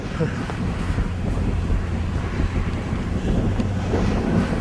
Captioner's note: air whooshing